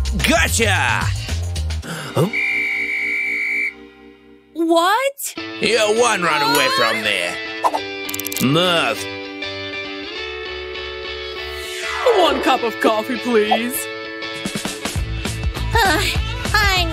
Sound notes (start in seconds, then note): 2.1 whistles